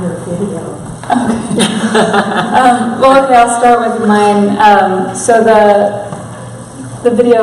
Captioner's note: laughter